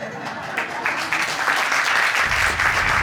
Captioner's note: audience laughing and applauding